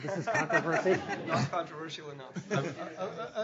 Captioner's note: laughing